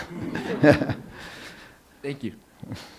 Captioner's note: laughs